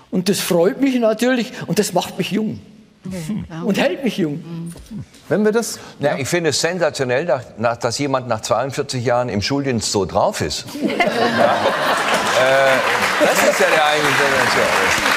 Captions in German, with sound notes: Und das freut mich natürlich. Das macht mich jung. Und hält mich jung. Wenn wir das ... Ja? Ich find es sensationell, dass jemand nach 42 Jahren im Schuldienst so drauf ist. (Lachen, Applaus) Äh, das ist ja eigentlich ...